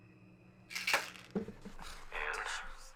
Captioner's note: pills clacking